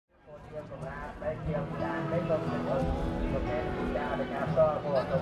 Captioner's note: casual chatter